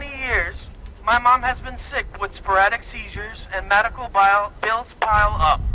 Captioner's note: shouting